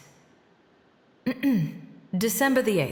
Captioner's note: clears throat